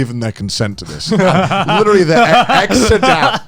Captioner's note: both laughing